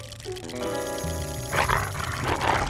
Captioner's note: growls